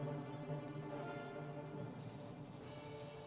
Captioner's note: birds chirping